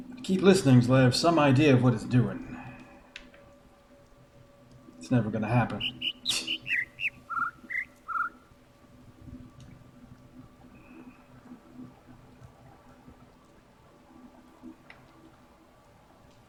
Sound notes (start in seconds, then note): 5.6 overlapping birds chirping, ˥ ˥ ˩ ˧ ˩; 5.7 scoffs